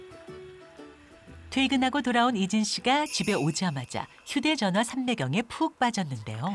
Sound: voiceover

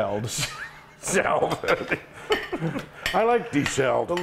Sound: laughing

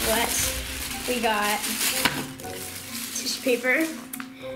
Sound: tissue paper crinkling

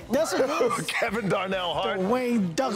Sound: laughs

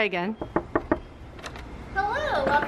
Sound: knocks on door

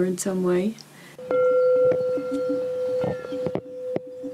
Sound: bell rings

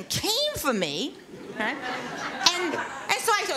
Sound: laughter

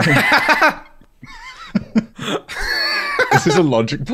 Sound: laughter

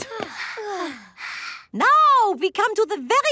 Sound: panting

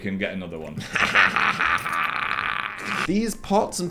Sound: Dan laughs

